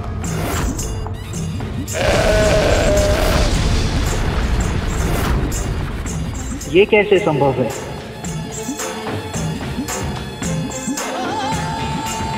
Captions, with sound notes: [bull roaring] How is this possible? [emotional music playing]